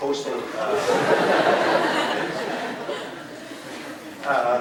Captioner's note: crowd laughing